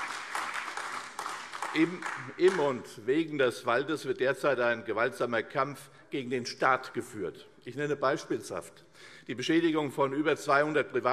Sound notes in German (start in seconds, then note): 0.0 Beifall CDU, AfD und Freie Demokraten